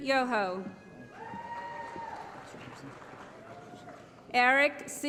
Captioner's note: applause